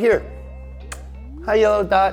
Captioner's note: smooching